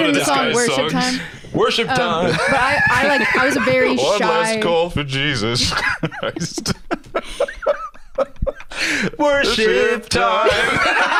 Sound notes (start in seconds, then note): 5.5 laughing